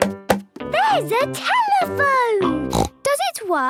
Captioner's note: snorts